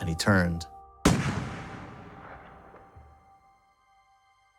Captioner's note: bullet booming